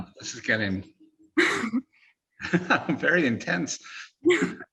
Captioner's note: laughing